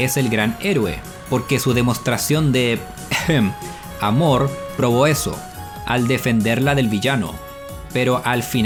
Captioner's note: cough